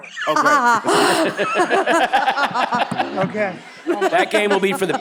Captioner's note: members laughs